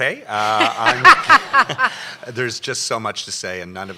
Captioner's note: laughter